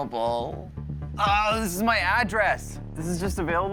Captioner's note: groaning